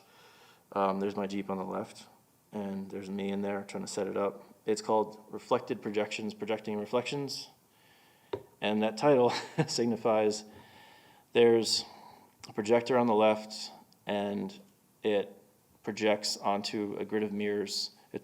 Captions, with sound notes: There's my Jeep on the left, and there's me in there trying to set it up. It's called "Reflected Projections, Projecting Reflections," and that title (chuckling), signifies there's a projector on the left, and it projects onto a grid of mirrors.